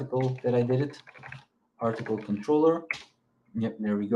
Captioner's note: keyboard clacking